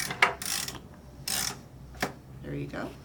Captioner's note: machine rattling